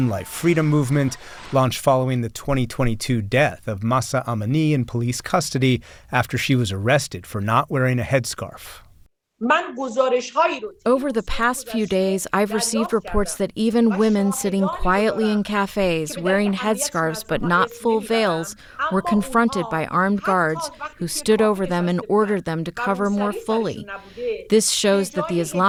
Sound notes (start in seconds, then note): 11.4 through translator